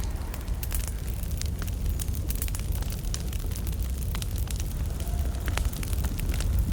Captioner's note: fire crackling